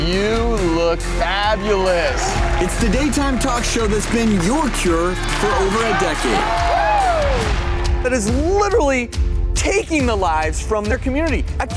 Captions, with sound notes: You look fabulous! It's the daytime talk show that's been your cure for over a decade. (crowd cheering) That is literally taking the lives from their community!